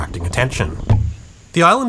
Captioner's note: boink